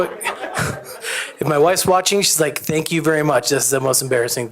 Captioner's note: laughter